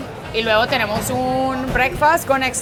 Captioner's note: speaks in foreign language